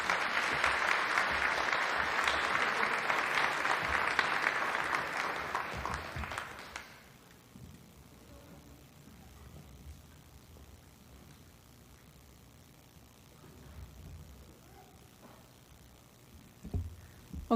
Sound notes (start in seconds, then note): 5.1 applause